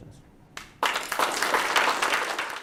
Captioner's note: applause